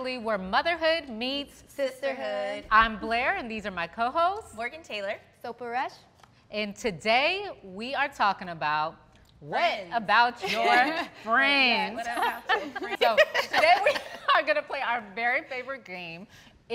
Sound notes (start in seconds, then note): 12.1 all laughing